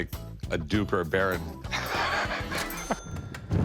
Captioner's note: laughs